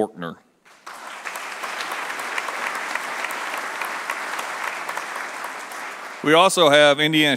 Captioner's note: applause